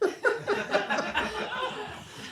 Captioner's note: laughter